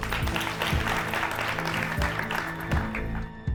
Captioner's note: audience clapping; dramatic music